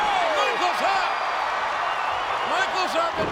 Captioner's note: audience cheering